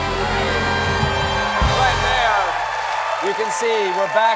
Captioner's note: cheers and applause